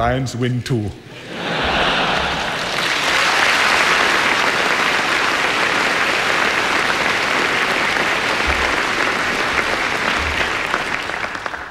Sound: laughter and applause

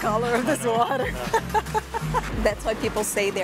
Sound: laughs

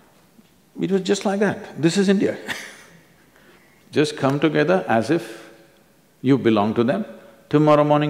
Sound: laughs

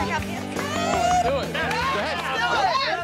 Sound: crowd cheers

